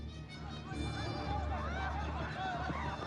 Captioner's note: chattering